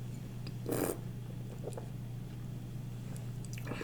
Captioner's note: wine slurps